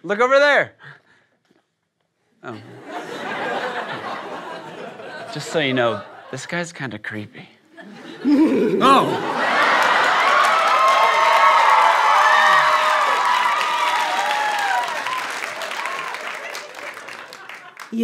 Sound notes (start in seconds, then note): 2.6 laughter; 8.8 cheering